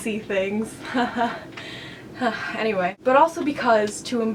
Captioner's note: chuckles